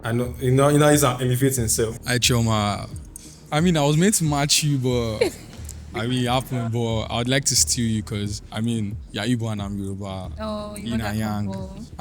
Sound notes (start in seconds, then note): 5.1 laughs